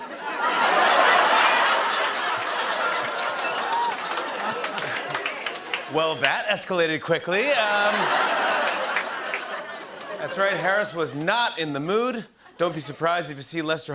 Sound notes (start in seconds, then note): 0.0 laughter; 7.6 laughter